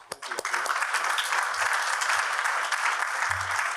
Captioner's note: applause